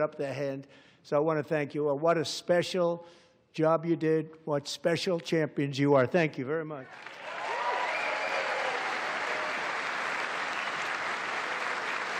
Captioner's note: applause